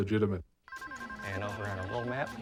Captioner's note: phone ringing